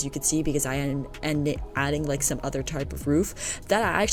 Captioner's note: stutters